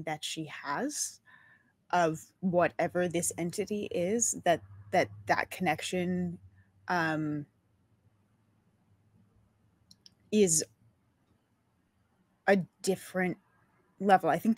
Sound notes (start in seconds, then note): none